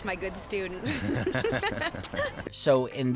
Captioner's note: laughter